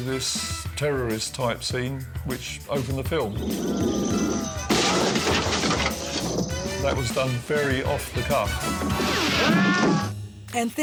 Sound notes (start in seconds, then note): 3.3 shouting and crashing; 4.5 funky music